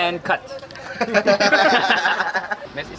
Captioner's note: laughs